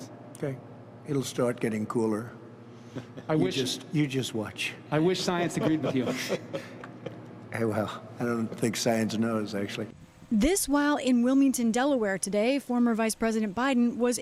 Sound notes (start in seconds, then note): 5.2 laughter